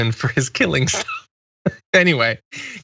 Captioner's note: laugh